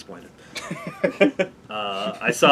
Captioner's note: laugh